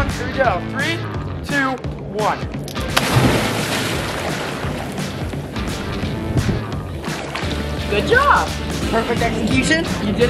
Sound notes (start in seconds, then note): 2.8 water splashing